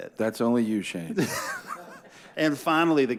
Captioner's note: laughs